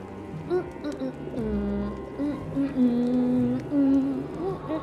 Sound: humming over whimsical music

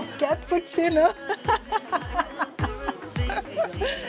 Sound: laughs

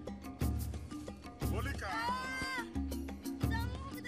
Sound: Erpak yells

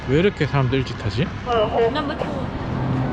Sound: train

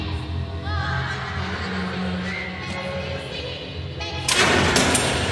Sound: distant echoing laughter

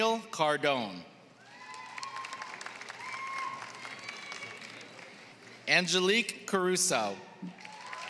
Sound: applause; applause

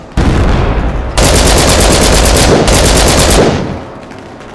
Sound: LMG fire

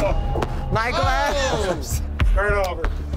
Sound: laughs

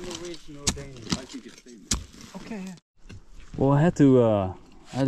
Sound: men chattering

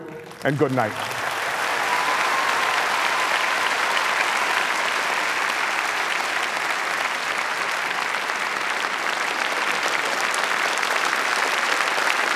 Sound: applause

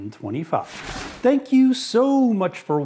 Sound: whooshing

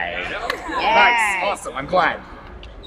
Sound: crowd enthusiastically confirms

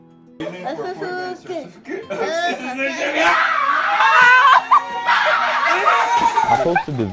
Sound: cheering and Laughter

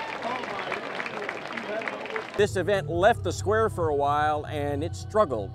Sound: applause

